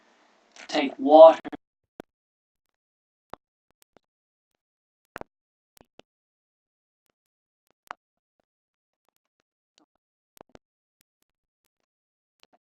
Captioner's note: audio missing